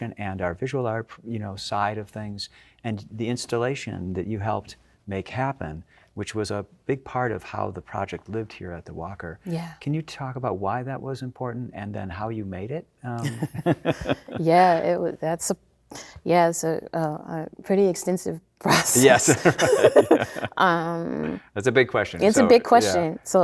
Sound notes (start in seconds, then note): 13.2 both chuckling; 18.8 both laughing